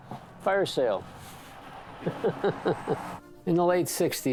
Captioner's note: laughs